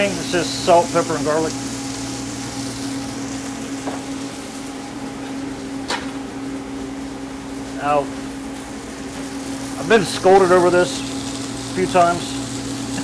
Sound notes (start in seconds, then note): 3.7 meat sizzling